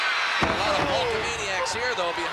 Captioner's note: crowd clamoring; blows thudding